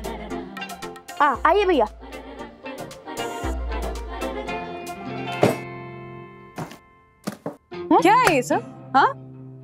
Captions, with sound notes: Please come inside. [thump noise] What is all of this? Huh?